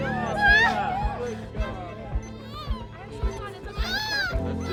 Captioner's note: baby cries